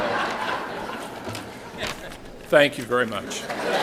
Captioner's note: laughter